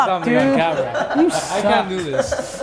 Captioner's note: group laughter